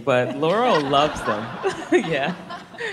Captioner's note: audience laughing